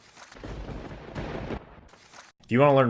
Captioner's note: thunder rumbles